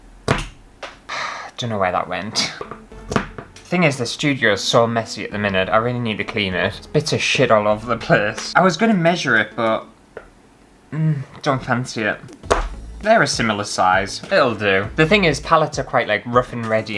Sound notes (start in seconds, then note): 1.1 sigh